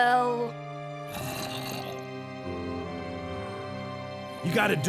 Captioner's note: zombies gurgle and moan outside